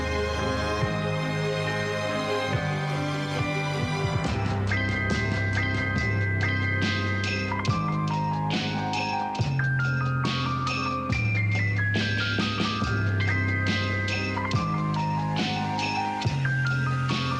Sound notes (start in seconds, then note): none